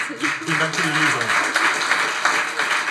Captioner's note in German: Applaus